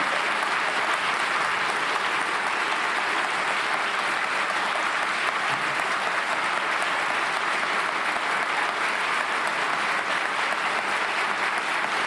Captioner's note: applause